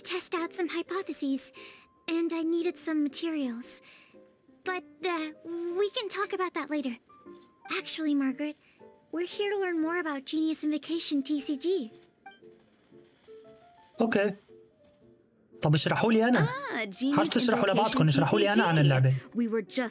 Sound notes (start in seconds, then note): none